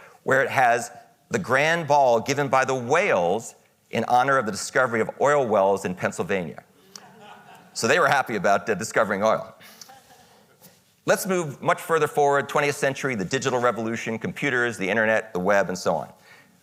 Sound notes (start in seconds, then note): 6.8 audience laughing